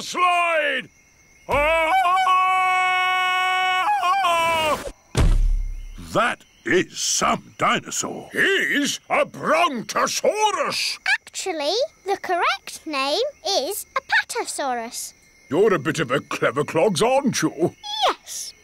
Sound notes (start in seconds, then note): 1.4 ululating